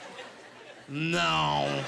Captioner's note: laughing